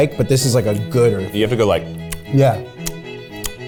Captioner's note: smacking tongue